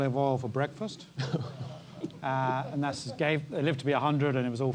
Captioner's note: laugh